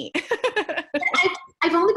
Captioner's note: laughs